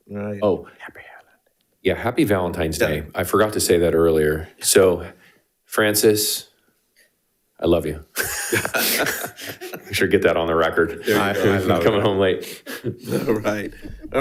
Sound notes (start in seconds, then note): 8.1 board Members laughing